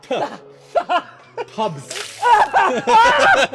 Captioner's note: splash